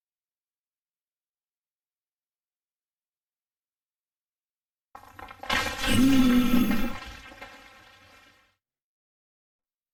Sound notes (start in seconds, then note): 5.5 crashing and moaning